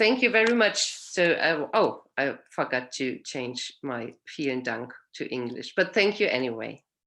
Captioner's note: speaking german